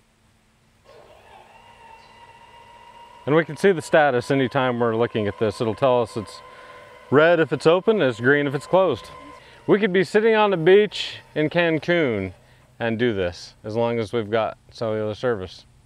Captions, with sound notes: (gates buzzing) And we can see the status anytime we're looking at this. It'll tell us it's red if it's open, it's green if it's closed. We could be sitting on the beach in Cancun and do this, as long as we've got cellular service.